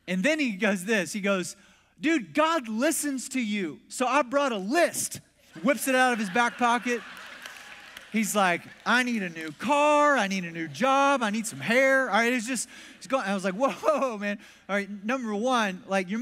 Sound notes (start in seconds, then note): 5.5 congregation laughs